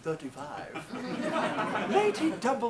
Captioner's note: audience laughs